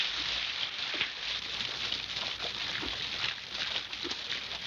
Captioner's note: water splashing